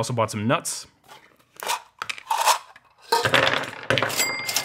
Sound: nuts clanking

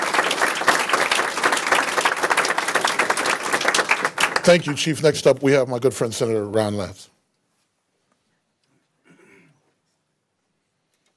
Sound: applause

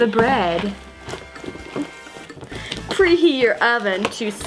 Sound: slime squishes

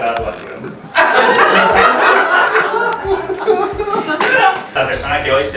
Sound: laughs

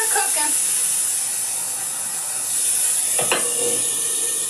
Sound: salmon sizzling

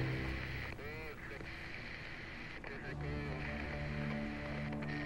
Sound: walkie talkie static buzzing

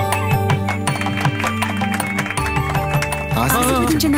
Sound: background music; claping

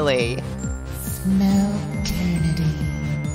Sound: whisper

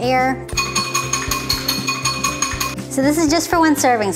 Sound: whisk clinking

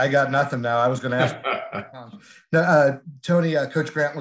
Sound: laughter

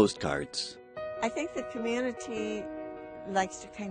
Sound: voiceover

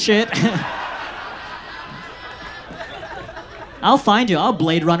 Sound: audience laughs

